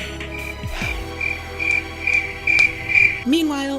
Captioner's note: sigh; crickets